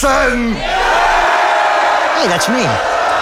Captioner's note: crowd cheering